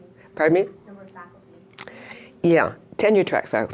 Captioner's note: voiceover